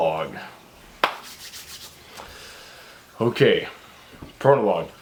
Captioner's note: rubs hands together